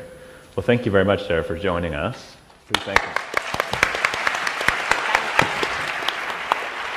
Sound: applause

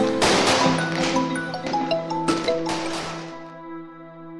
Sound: phone ringing …. Boss calling

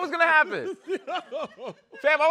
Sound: laughter

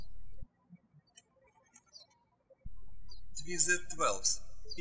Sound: birds chirping

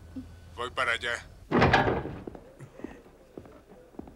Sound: police room banter

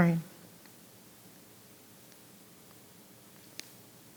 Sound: silence

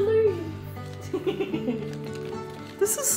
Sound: laughing

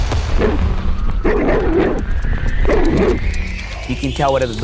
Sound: dogs barking

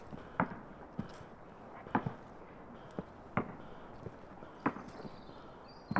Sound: loud, repeating thuds

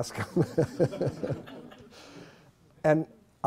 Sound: laughter

